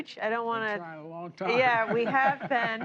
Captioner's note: laughter